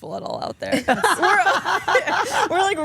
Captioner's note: Stephanie and Elyse laugh